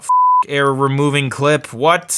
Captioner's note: beep